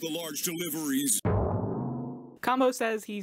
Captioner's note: goofy drum sound effect